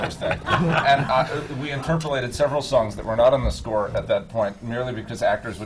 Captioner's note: laughter